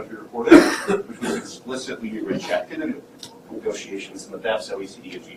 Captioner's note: coughing